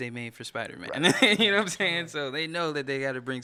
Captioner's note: laughing